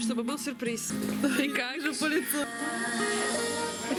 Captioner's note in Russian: смеётся